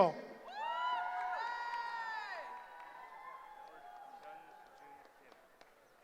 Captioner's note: cheering